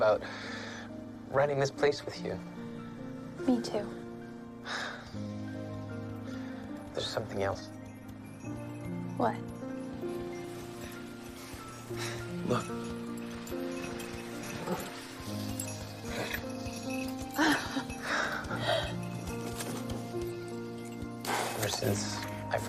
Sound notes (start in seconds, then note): 12.5 sleigh bells jingling; 16.0 laughs